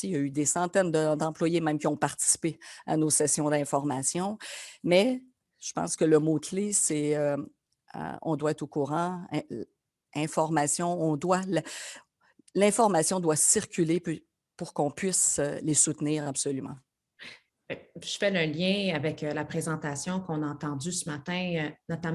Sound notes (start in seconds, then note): 17.9 speaks French